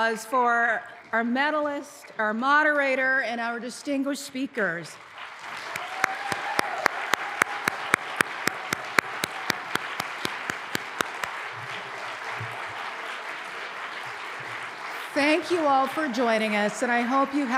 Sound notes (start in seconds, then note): 5.1 applause